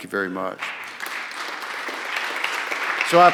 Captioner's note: applause